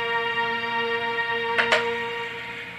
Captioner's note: dialing